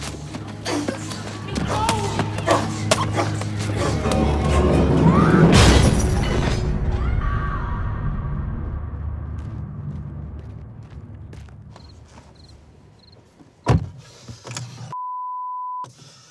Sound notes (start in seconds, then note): 4.4 door clattering; 5.4 door slamming; 7.0 boy screaming; 9.3 feet pattering; 11.6 insects chirping; 13.6 door slamming